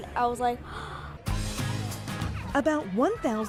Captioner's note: gasping